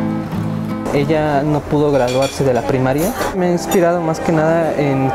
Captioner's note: speaks in foreign language